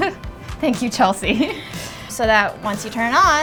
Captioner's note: laughs